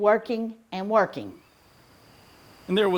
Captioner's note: birds chirping